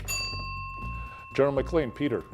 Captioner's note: bell ringing